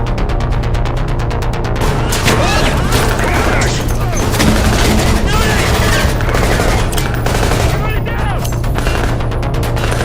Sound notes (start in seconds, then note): 0.7 intense music continues; 1.8 gunfire blasting